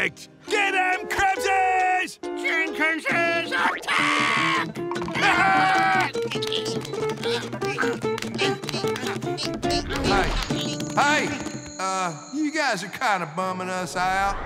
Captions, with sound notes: Get 'em, Krabses! Jenkinses, attack! [screaming] [grunting] Hey. Hey, uh, you guys are kind of bumming us out.